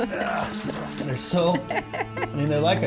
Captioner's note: grunting; laughs